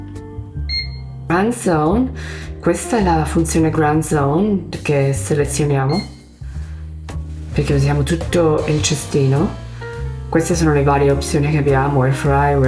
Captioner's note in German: spricht Italienisch und erklärt die Optionen der Heißluftfritteuse